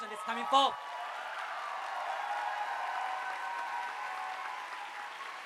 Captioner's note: audience applauding